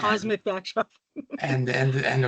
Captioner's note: laughing